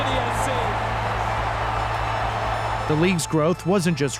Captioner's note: cheers, applause